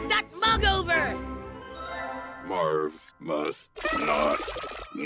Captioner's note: chimes sounds